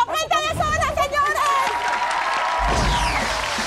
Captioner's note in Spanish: Aplausos